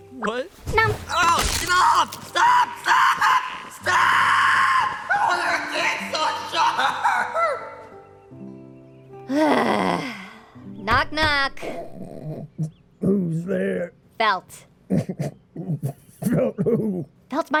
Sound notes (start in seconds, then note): 1.4 Subaru Yelling; 9.3 sigh; 14.9 chuckle